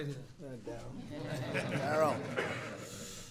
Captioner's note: laughter